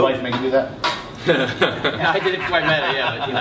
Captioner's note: laughter